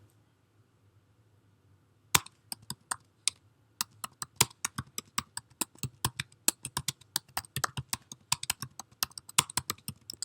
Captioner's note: typing